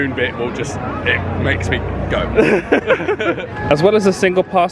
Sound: both laughing

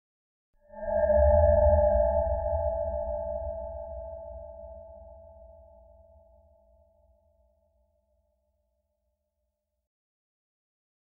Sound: scary eerie noise

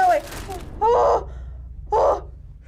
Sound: squealing; groaning

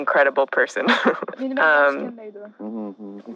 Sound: in Uyghur; both chuckle

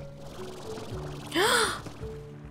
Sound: gasp

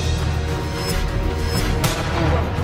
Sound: swooph - swooph

